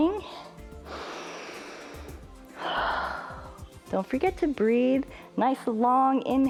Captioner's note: inhales and exhales